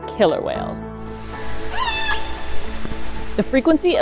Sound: background music; echolocation sounds

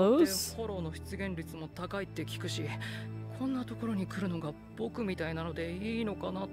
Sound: speaking in foreign language

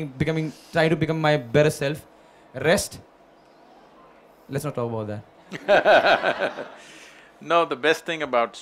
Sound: Sadhguru laughs

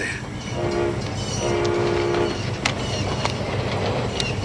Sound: train whistling

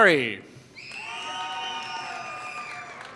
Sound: applause

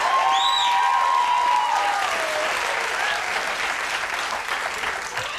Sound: crowd cheering

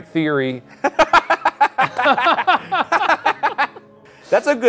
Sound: both laugh

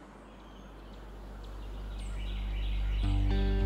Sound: birds chirping; soft instrumental music

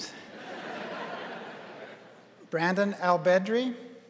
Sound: crowd laughing

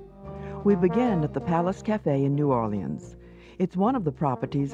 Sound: voiceover

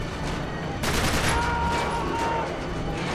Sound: scream

